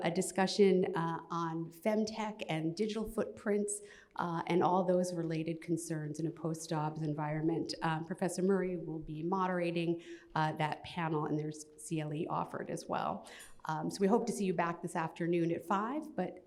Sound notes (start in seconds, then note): none